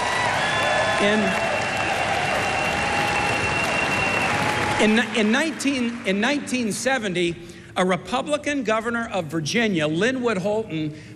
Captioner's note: cheers and applause